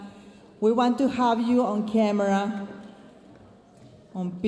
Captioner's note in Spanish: hablando en inglés